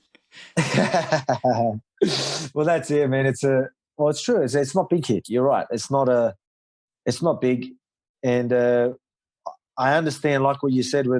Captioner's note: laughs